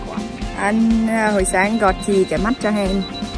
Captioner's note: laugh